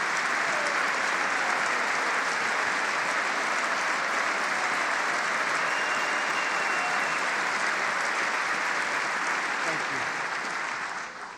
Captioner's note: applause